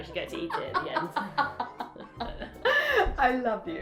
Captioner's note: laughter